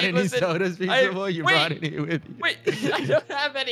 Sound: laughs

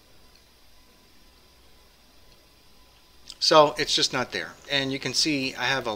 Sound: pause

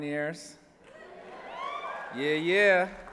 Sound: cheering

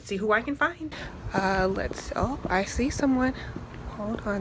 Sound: footsteps

